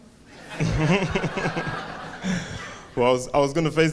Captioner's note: audience laughing